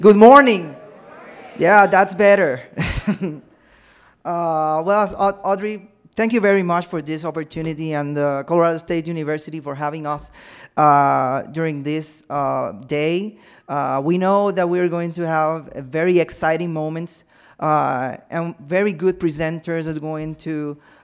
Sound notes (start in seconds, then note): 3.8 laughs